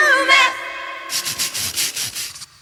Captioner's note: scratching noises